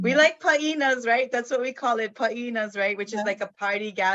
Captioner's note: speaks in foreign language